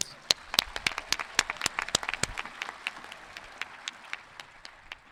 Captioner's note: audience clapping